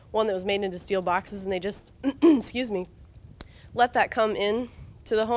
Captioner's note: throat clearing